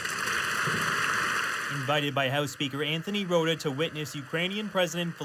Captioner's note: applause